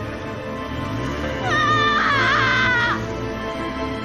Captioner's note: mercedes screams